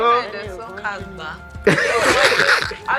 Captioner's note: laughs